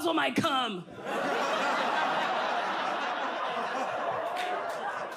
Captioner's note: audience laughs